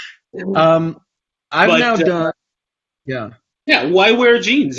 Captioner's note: laughs; both stammer simultaneously